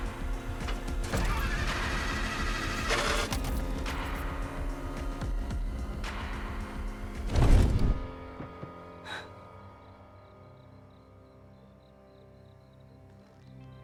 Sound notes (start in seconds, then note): 7.0 crashing